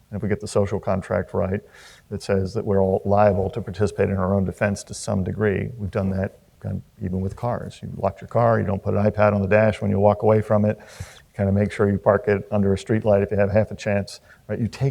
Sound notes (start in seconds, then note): none